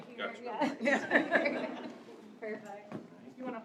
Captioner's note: laughter